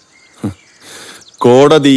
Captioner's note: chuckling